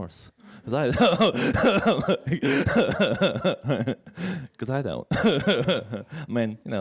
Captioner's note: laughs